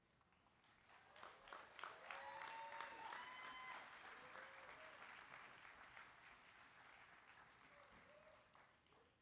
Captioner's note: applause